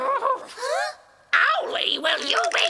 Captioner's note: triplets gasp